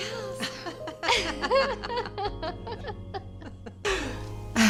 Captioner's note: women laughing